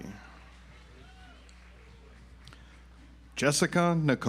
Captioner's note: audience applauds